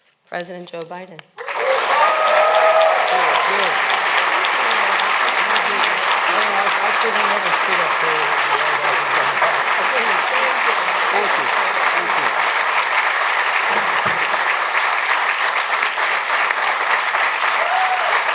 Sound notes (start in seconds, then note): 2.7 applause